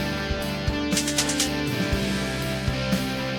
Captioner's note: rhythmic clicking